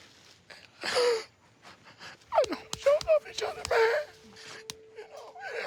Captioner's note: crying